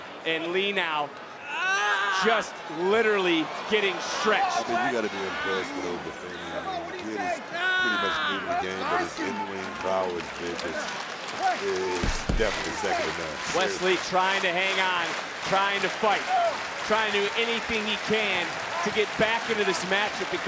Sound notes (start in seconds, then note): 5.0 Wes Lee screaming; 5.0 audience cheering